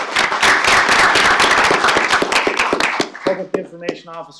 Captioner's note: applause